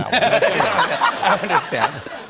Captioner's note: laughter